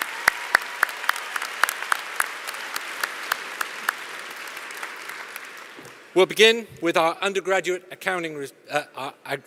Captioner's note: applause